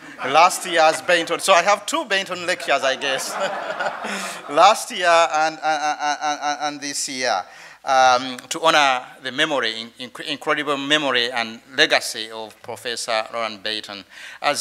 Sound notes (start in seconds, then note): 2.4 all laughing